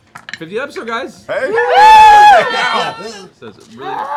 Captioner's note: cheering